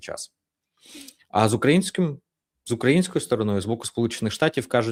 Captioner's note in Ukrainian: сопіння